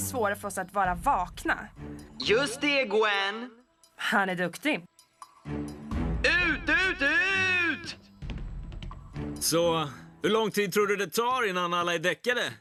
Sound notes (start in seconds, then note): none